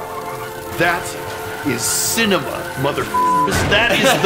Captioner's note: beeper